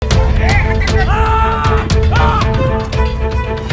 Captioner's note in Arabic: صراخ لجذب انتباه الكلب